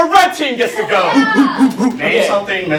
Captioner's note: monkee noises